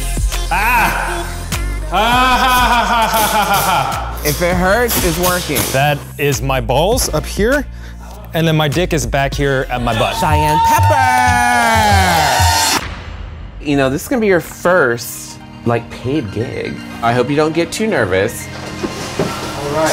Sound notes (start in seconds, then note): 2.0 painful laughter; 9.8 crowd cheers; 12.5 pounding sound